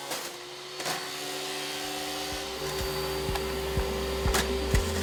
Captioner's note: machine whirring